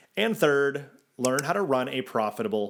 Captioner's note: graphics click